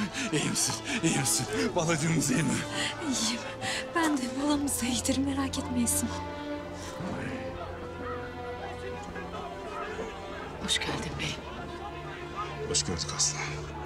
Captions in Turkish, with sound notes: İyi misin? İyi misin? Balacığımız iyi mi? İyiyim. Ben de, balamız da iyidir. Merak etmeyesin. (Yuhalama sesleri) -Hoş geldin beyim. -Hoş gördük Aslıhan.